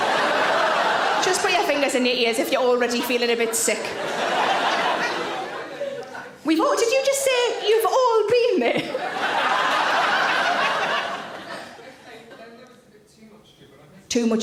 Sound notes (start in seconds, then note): 0.0 audience laughs; 8.6 audience laughs